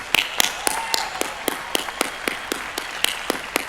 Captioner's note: applause